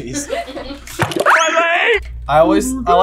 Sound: laughter; cartoon slip noise and a cartoon voice shrieks "My leg!"

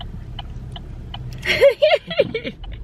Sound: laughing

